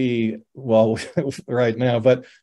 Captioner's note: chuckles